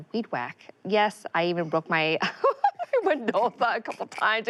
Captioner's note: laughter